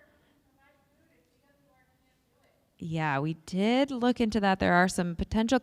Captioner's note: speaker off mic